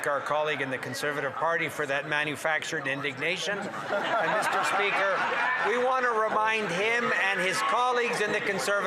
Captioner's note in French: voix de l'interprète